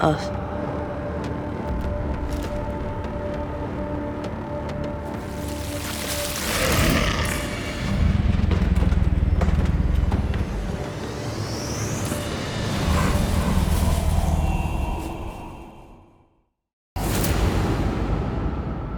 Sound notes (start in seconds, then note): 6.3 snarling; 16.6 ominous music